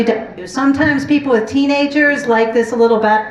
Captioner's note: none